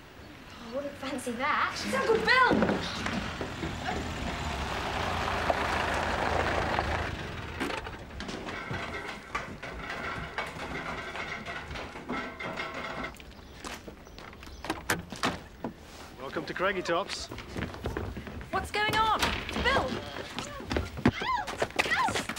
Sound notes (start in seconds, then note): 2.0 car engine running; 8.9 stairs creaking